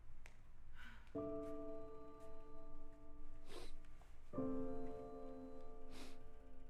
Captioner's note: gentle music; Abby sniffling